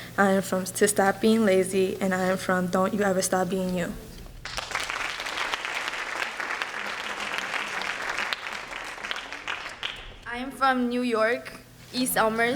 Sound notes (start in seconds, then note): 4.4 applause